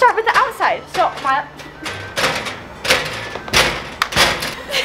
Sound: bangs on locker

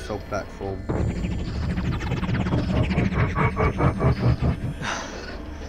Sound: The Tardis makes a noise of worry

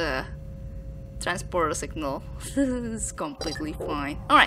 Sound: giggles

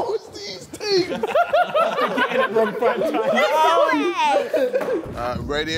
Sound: Sidemen laughing

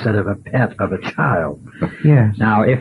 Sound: laughs

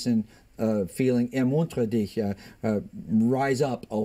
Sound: speaking German

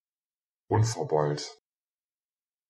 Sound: fast Pronunciation

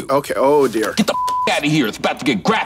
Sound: beep

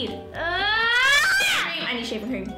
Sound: screaming

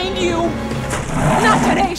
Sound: growl

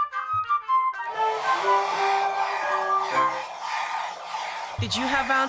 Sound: vacuum cleaner running

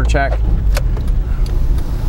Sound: ticking sound

